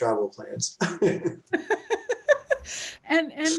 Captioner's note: laugh